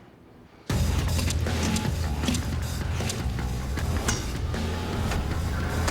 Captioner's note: whacking